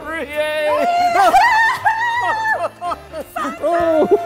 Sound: screams

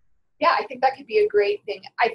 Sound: voiceover

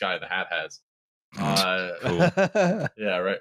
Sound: snorts; laughs

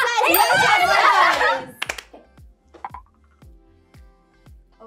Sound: everyone cheering

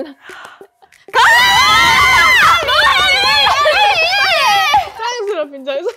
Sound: the members in chaos as bursts out with laughter

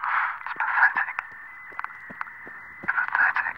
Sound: feet pounding on the road

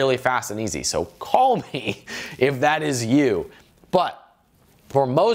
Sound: laughs

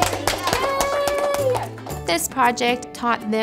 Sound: claps

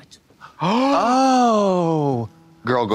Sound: blonde Women heave in unison

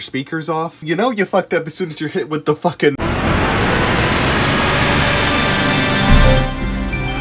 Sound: THX startup sound intensifies

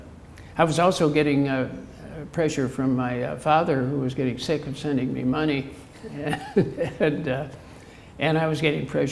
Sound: chuckle

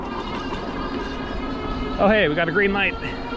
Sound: motor whooshing; car engine whooshing

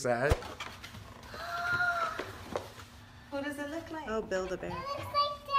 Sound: girl gasps

